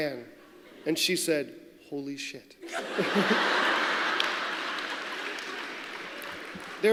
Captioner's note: laughter